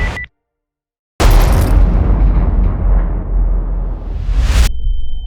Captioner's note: explosion